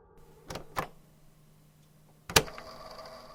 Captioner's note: click